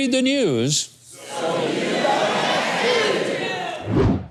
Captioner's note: crowd